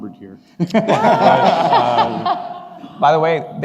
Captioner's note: laughing